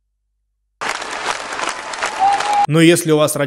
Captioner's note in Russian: аплодисменты